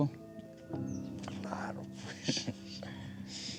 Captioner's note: speaking spanish; spanish